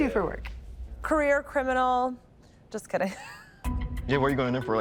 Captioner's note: laughs